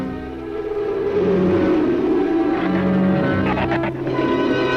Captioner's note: dark orchestral music; wind howls